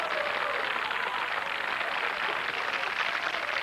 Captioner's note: cheers and applause